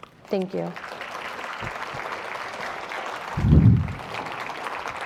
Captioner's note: audience applauding